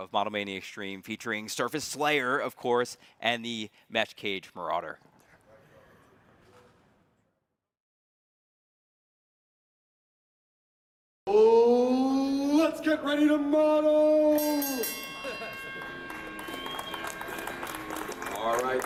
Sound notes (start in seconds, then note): 14.2 bell rings; 15.7 crowd clapping and whistling